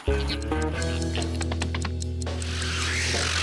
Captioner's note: watch ticking